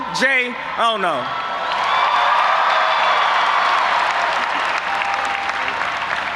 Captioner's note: audience applauding and cheering